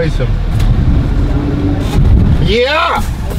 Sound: drives over rock

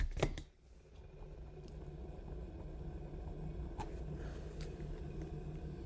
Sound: kettle whirring faintly

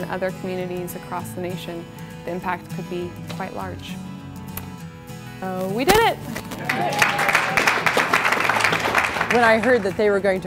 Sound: clapping

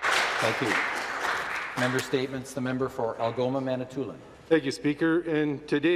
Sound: some Applause

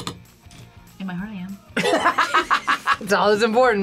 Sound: both laugh

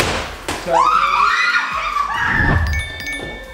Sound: yelling

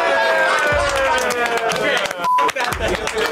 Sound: crowd cheers

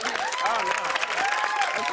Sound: cheers and applause

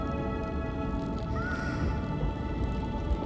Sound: gasps

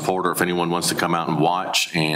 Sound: none

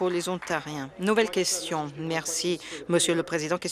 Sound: applause

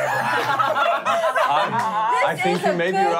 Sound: laughing

